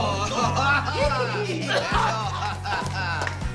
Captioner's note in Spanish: Risas